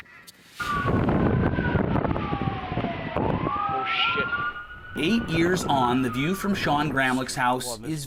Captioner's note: sirens